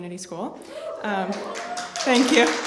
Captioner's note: cheers, applause